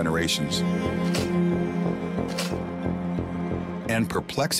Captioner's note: slides clicking